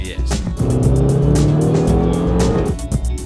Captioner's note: revs engine